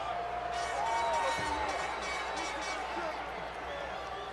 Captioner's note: air horn blows